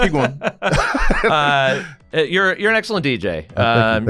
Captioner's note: laugh